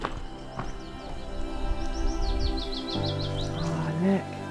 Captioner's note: birdsong